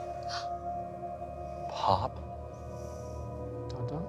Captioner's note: gasps